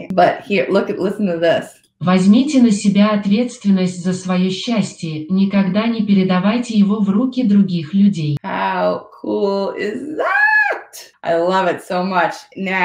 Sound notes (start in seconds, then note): 4.7 foreign Language 00:07:04